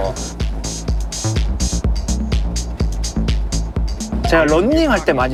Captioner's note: doom-chit